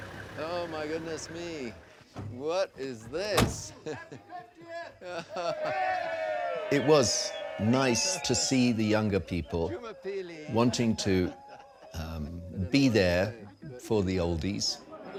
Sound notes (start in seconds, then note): 5.3 cheering